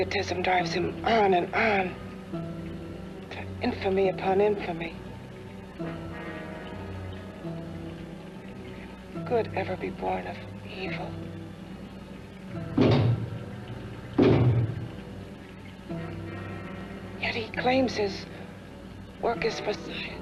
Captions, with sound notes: on and on. To infamy upon infamy. How can good ever be born of evil? (knocks twice) Yet he claims his work is for science.